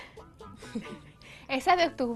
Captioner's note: laugh